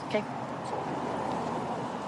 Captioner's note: vehicles driving